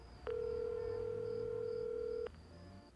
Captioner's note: line ringing